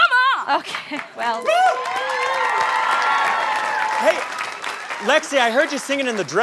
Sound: cheering

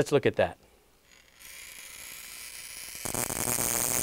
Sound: electric humming

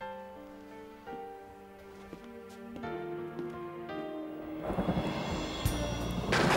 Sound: soft music; thunder roars

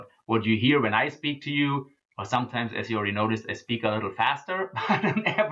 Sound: laughs

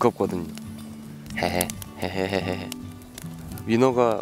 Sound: hehe

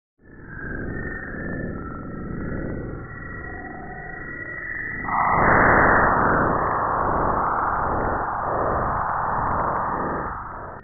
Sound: bow shock audio

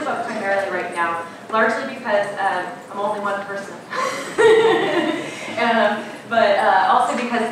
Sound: laughing

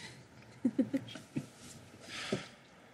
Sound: laughter

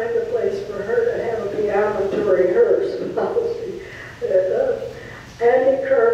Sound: laughs

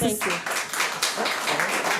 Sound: audience applauds

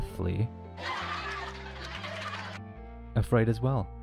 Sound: cheerful laughing and clapping

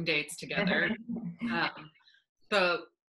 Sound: laughing

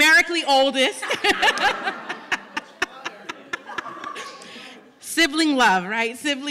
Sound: laughter

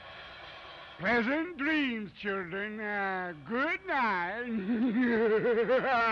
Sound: laughs

